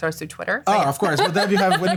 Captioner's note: laughter